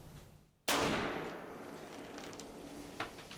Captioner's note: gunshot